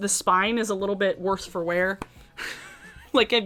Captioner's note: chuckles